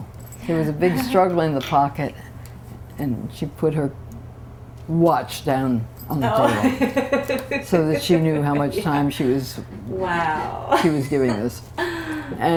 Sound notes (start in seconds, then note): 6.4 laughter